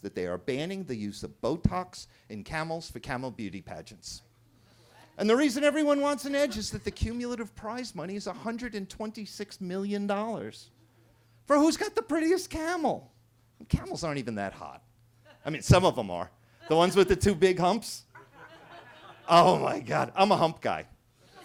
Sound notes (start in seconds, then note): 16.6 attendee laughing; 18.1 attendees laughing; 21.2 attendees laughing